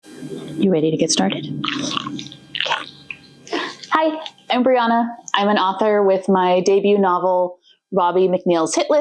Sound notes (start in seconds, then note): 2.5 slurpy tongue noises